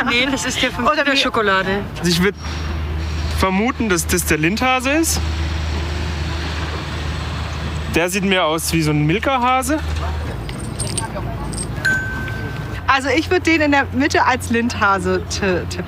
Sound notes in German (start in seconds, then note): 11.8 Glockenton